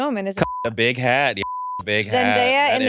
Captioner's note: beep